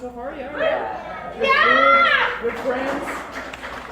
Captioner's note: audience claps, :"Yeahh, we're one big happy family!